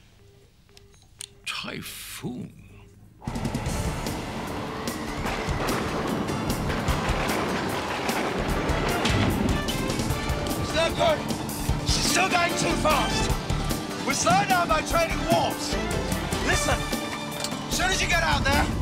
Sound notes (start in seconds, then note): 3.6 intense music; 7.0 thunder booming